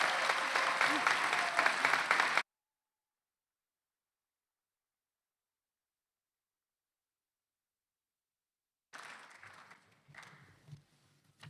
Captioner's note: applause